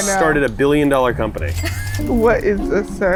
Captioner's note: label chiming